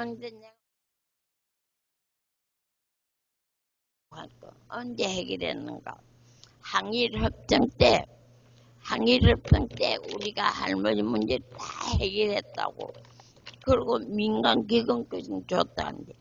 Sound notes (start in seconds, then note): 5.2 speaks in foreign language